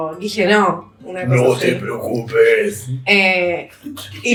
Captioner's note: low voice